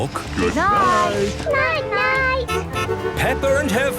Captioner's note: honking